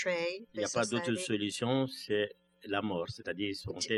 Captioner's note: speaking french